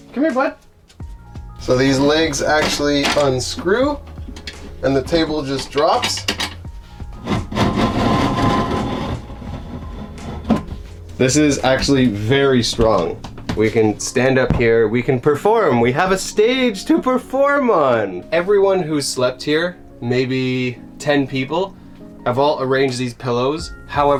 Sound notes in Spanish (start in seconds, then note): 7.1 La mesa retumba